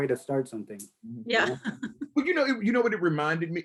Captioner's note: chuckles